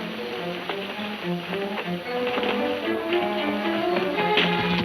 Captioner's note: hooves thudding